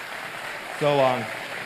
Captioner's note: applause